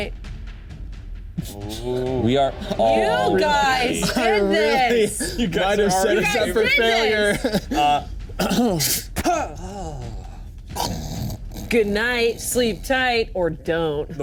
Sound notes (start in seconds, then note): 8.0 clears throat; 10.7 snoring